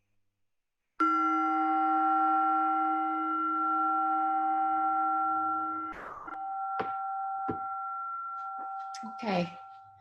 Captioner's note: chime